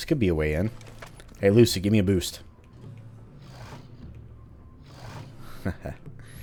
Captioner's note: chuckles